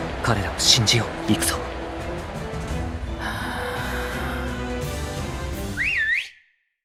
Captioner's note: breath